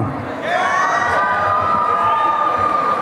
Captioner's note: applause and cheering